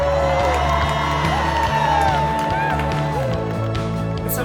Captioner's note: cheers and applause